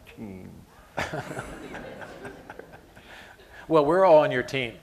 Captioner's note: laughter